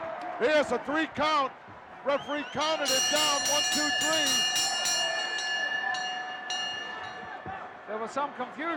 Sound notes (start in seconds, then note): 2.6 bell dinging